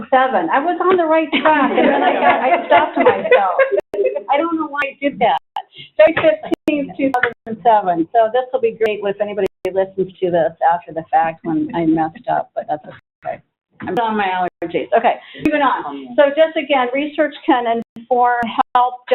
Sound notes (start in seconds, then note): 4.1 laughs